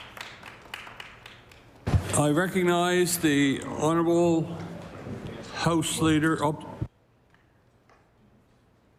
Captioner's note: applause